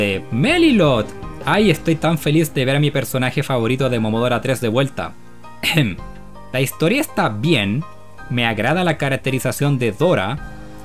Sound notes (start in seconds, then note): 5.6 ahem